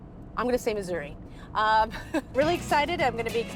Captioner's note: chuckles